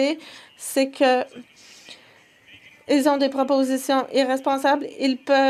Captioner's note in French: voix de l'interprète